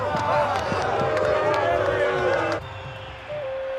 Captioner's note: crowd booing